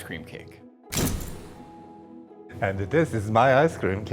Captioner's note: door closes